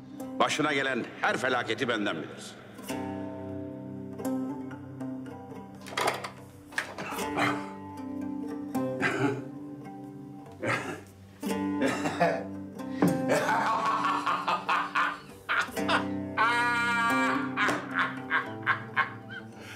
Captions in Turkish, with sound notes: Başına gelen her felaketi benden bilirsin. [ Kahkaha]